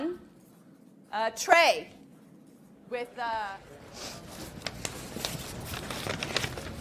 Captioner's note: people chattering